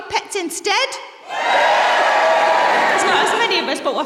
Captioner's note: wild cheering